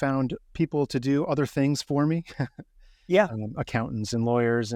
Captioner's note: chuckling